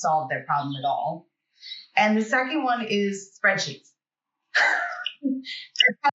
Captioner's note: chuckles